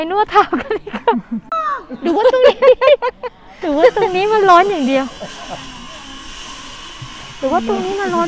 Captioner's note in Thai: เสียงหัวเราะ